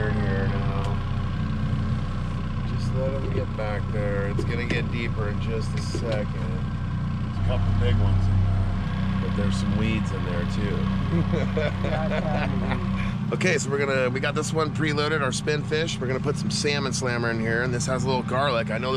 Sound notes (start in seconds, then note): 11.0 laughing; 13.3 boat engine idling